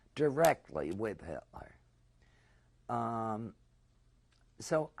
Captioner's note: pauses for 3 seconds